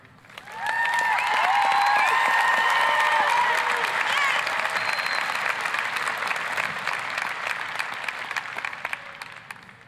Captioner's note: applause, cheering